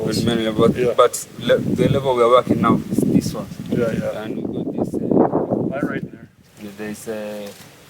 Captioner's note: wind noise